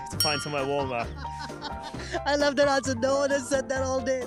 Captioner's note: laughs loudly